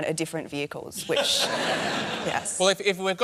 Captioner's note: laughter